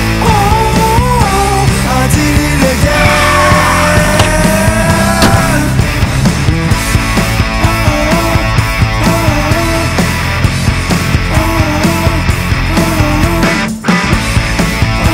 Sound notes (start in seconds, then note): 2.8 tires screeching; 5.1 trunk door slamming